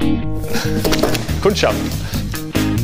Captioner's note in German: lacht; Lässige Musik